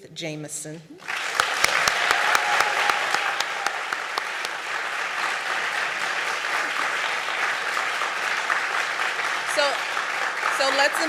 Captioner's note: applause